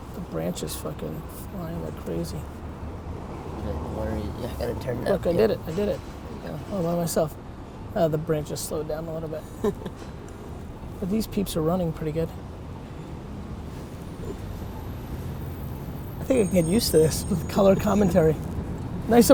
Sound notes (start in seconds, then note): 9.4 laughs